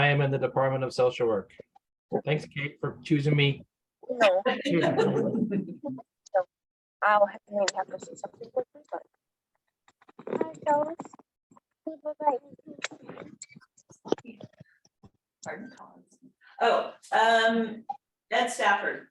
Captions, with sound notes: I'm in the department of social work. Thanks for choosing me. [LAUGHTER] [CHATTER] Oh, that's Stafford.